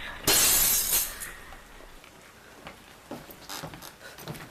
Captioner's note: glass shattering